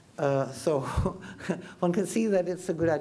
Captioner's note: chuckles